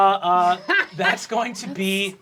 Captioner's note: laughing